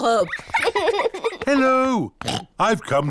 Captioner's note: oinks